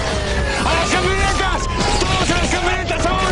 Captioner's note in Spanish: Disparos